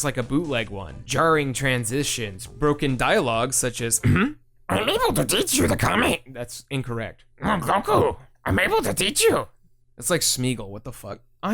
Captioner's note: ahem